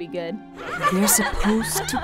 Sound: laughter

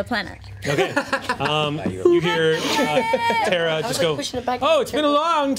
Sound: overlapping chatter

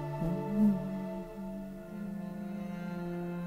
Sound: humming

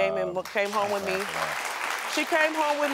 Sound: audience applauds

